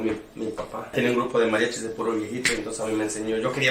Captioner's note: speaking in Spanish